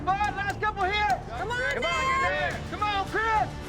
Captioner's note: cowboys shout encouragement